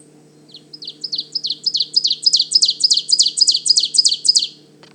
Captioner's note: Ovenbird singing